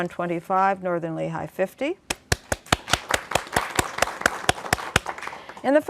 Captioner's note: applause